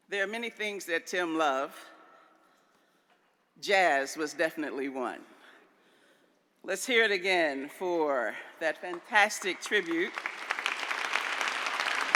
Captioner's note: applause